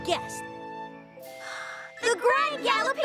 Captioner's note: both gasp